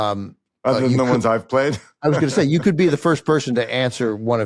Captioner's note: laughs